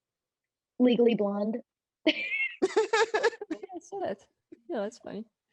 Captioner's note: all laugh